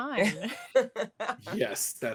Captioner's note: laughs